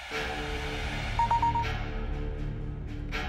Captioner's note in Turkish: Mesaj sesi